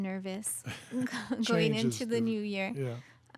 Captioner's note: laughs